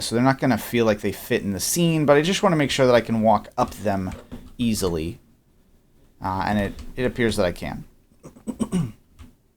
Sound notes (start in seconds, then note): 8.2 clears throat